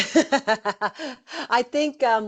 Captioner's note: laughing